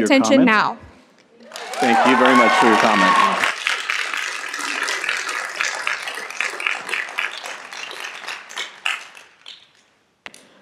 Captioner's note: cheers and Applause